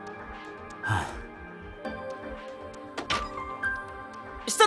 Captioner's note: sigh